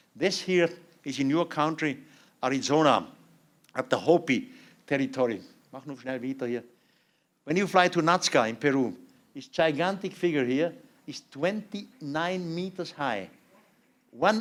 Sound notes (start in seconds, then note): 5.8 non-english speech